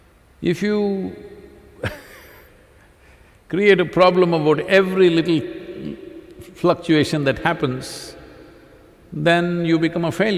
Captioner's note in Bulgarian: смях